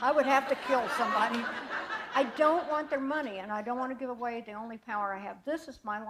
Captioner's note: laughter